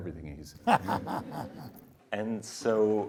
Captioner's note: laughing